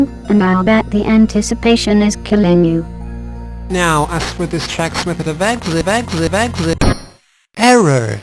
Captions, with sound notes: [Bitcrushed, stuttering] Now, as for this track's method of exit- �xi- ���-- [DING!] [DING!] ERROR,